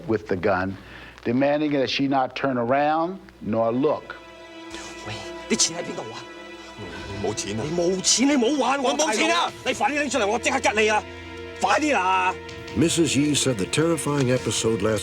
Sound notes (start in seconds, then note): 4.7 speaking cantonese